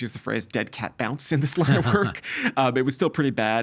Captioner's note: chuckling